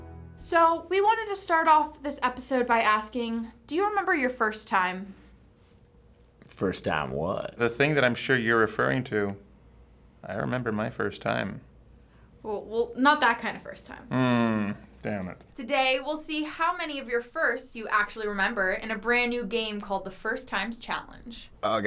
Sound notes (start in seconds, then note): 5.7 suggestively